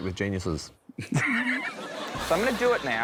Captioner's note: laughs